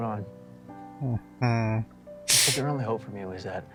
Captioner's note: sniffles